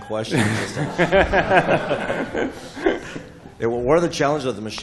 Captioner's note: laughter